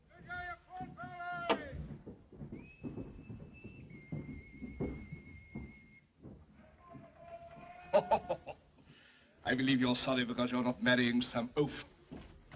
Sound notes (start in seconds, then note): 0.1 shouting outside; 2.3 footsteps outside room; 2.4 whistling outside; 7.9 Sir Humphrey laughs